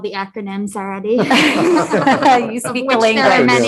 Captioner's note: group laughing